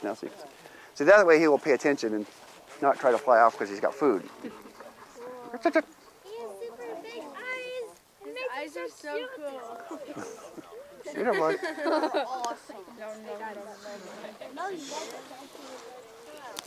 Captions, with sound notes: So that way he will pay attention and not try to fly off because he's got food. [Background discussion]